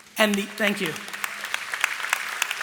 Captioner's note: applause